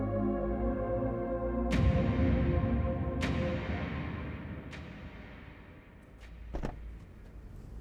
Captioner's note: doors closing